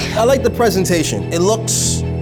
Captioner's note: beeps